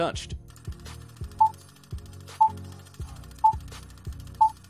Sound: beeping

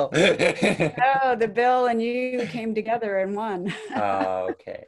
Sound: laughs; laughs

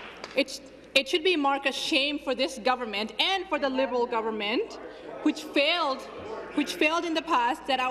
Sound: applause

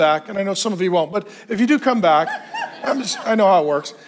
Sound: congregation laughs

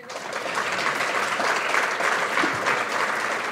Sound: applause

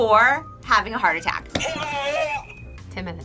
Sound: buzzer rings

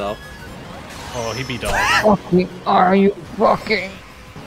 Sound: angry honking

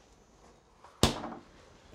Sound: freezer Door Closing

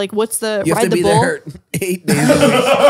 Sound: they laugh

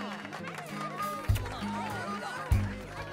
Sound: laughing

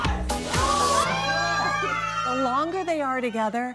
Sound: disgusted screams

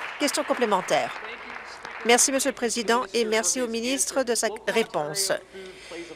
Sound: some Applause

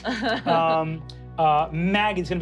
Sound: laughing

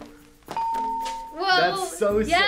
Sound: bell rings

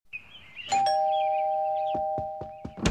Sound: ding dong

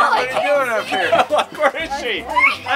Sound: laughter; children exclaim

